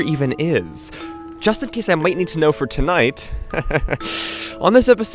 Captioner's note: chuckles